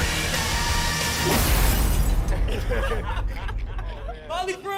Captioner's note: thud!; laughing